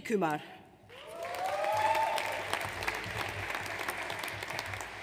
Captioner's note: audience applauds